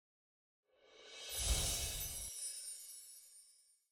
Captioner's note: chiming